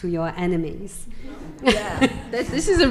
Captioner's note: audience laughing